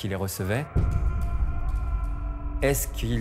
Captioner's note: screams